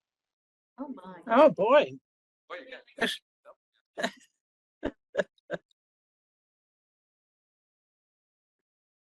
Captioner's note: laughing